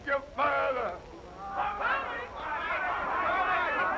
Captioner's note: crowd yelling